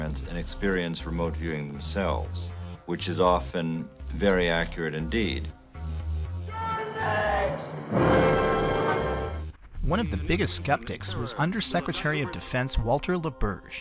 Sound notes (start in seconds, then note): 5.9 yelling